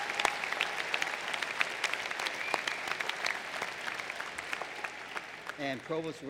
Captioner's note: applause